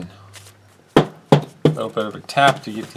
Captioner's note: tap tap tap